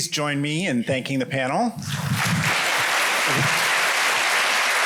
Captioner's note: applause